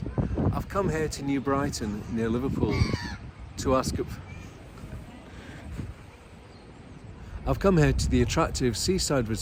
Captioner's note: seagull screeches